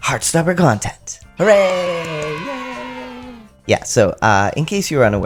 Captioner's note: cheer